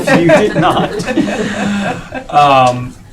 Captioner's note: laughing